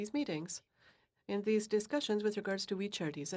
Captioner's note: speaking French